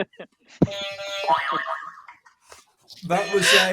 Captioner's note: honk